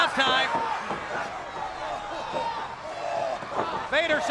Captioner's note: crowd yelling